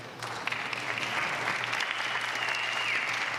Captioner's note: applause